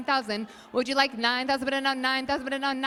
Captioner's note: applause